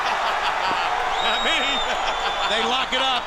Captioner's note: laughs